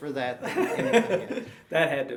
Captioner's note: laughing